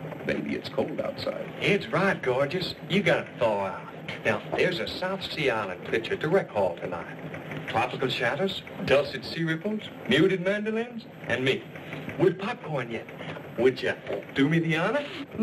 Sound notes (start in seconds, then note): none